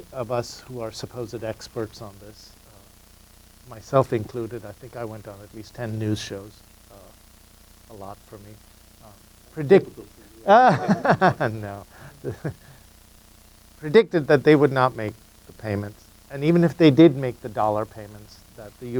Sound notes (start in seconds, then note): 10.4 laughs